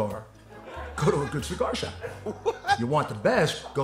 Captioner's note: laughing